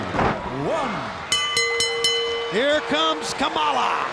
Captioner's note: bell ringing